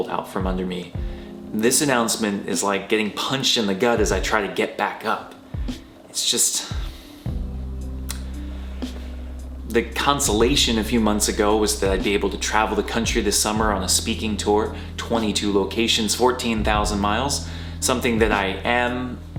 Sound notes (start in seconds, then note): 6.7 breath